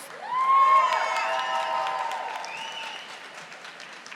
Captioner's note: audience applauding